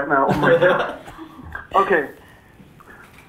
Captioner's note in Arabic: يضحك